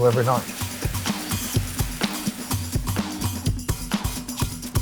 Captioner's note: food sizzling; upbeat music